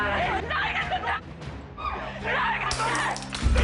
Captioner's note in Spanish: Gritos; Ruido al romper botellas